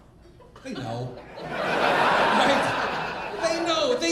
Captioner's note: audience laughing